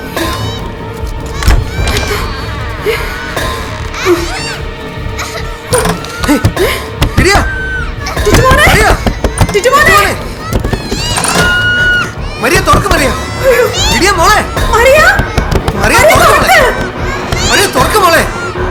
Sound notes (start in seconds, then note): 2.8 screaming in fear; 7.1 children screaming; 9.7 children screaming; 14.5 children are screaming in fear; 16.9 children are screaming in fear